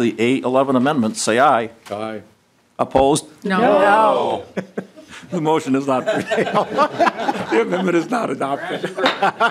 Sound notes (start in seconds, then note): 6.6 chorus of ayes